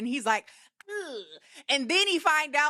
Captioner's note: grunts